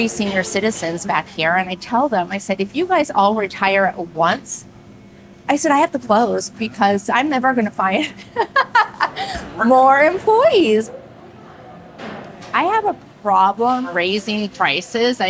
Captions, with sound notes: senior citizens back here. And I tell them, I said, "If you guys all retire at once," I said, "I have to close because I'm never gonna find [ LAUGHS ] more employees." I have a problem raising prices.